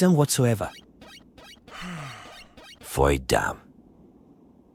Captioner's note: sigh